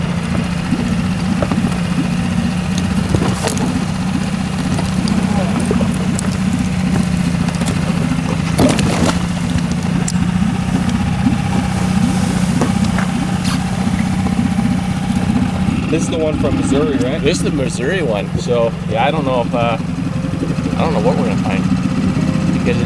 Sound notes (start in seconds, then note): 0.3 boat whirring; 8.8 water splashes